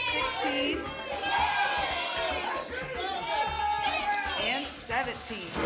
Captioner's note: audience shouting numbers